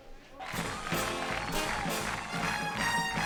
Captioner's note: crowed cheering